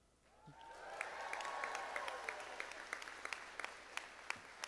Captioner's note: audience applauding